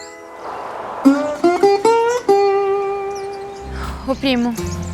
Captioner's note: birds